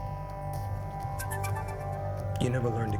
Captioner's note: incoming ringtone